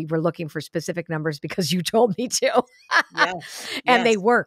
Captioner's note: laughs